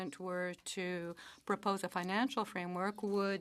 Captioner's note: speaking French